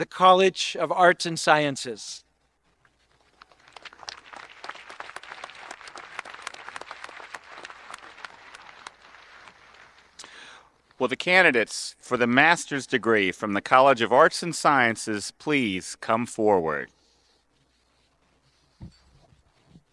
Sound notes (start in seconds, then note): 4.7 audience applauding